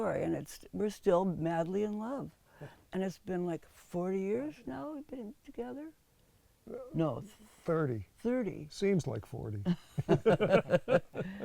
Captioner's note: laughs